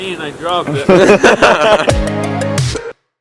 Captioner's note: laughter